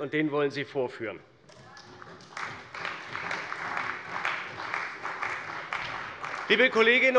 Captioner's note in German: Beifall bei der CDU